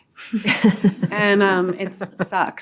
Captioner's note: all laughing